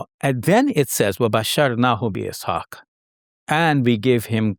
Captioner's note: speaking in foreign language